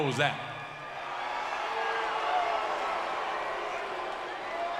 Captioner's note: crowd cheering